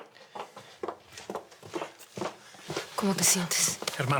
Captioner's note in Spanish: Pasos que se acercan